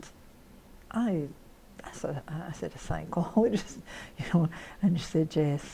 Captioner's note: laughs